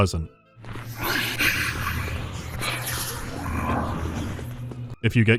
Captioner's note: deeply unpleasant huffing and grunting